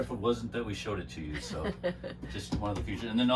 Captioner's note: laughing